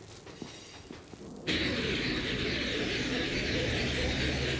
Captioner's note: electronic whooshing